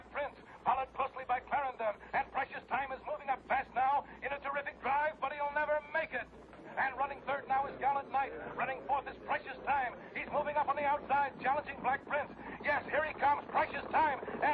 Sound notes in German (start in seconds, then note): none